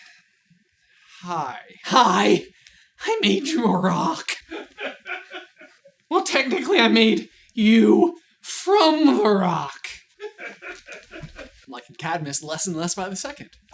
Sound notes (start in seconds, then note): 3.0 cracking up